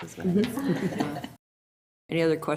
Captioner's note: group laughs